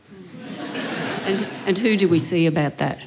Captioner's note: laughter